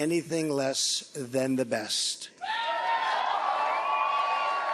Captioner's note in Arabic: هتاف الجمهور